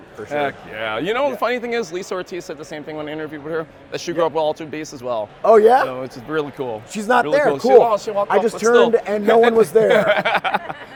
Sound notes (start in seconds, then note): 5.5 laughs; 8.4 laughs